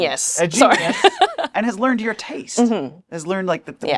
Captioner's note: laughs